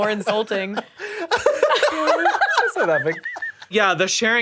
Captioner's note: laughing